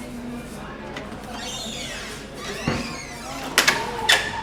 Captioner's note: door squeaking